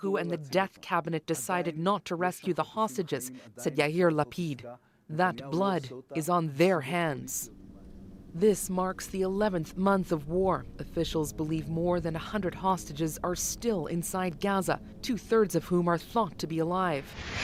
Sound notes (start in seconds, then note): 3.1 speaking alternate language